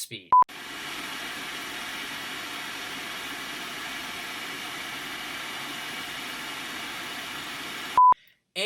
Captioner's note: fan Noise